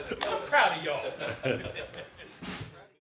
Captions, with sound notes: - I'M PROUD OF Y'ALL [LAUGHTER]